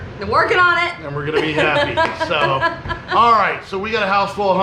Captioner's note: laughing